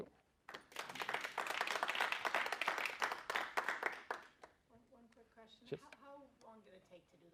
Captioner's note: applause